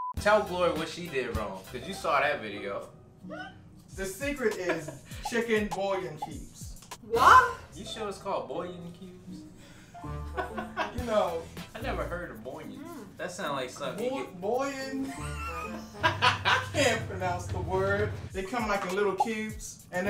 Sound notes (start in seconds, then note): 3.4 laughing; 10.3 laughing; 15.0 laughing